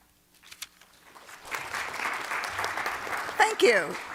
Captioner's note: applause